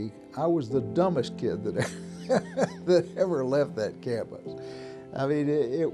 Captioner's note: laughs